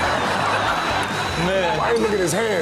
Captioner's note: audience laughs